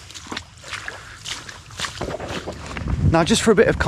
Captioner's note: water splashing